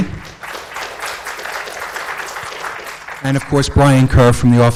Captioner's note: audience applauds